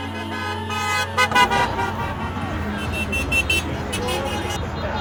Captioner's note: horn honking